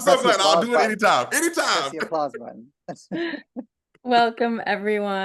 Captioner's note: laughter